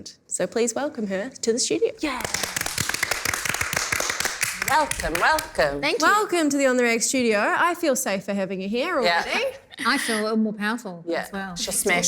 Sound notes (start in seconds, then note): 2.2 applause